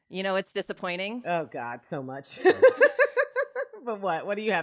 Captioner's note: laughs